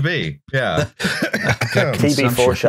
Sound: coughs hackily

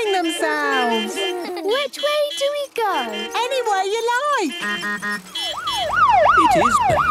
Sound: laughter; honking, siren wailing

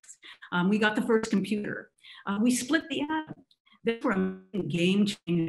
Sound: static crackling

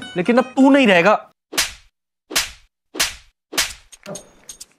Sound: slaps

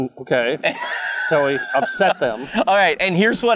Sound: laughing

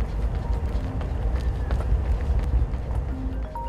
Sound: phone rings

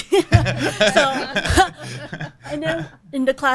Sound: panelists and audience laughing

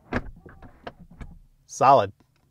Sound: car door thuds

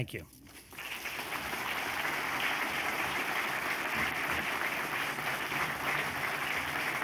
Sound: applause

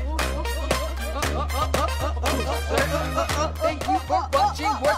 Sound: exclaiming

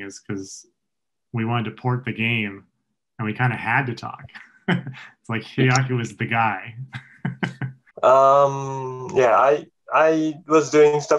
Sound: chuckles

